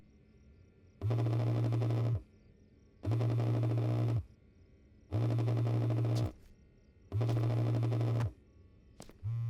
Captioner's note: phone vibrating